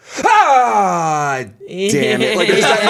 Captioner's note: yells and groans